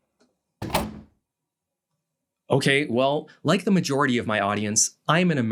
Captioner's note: door slam